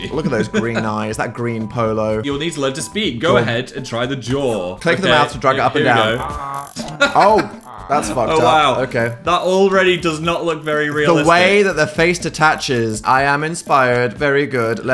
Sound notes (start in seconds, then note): 5.7 robot making noises; 5.8 laughing